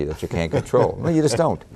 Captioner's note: laughter